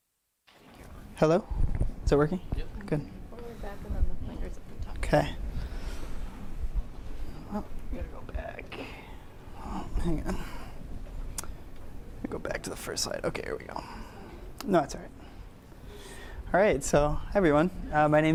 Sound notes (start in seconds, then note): 4.5 lady speaking off mic